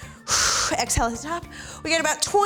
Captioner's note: exhales